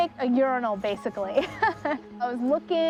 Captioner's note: laughs